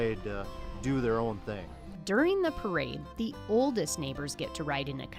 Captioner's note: siren sounds